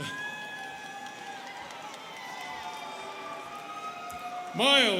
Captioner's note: students cheering